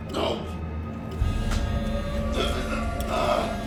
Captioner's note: phone vibrating